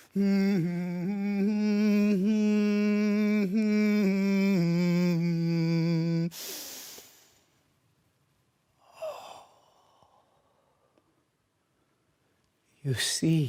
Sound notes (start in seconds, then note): 0.0 humming; 6.3 deep breathing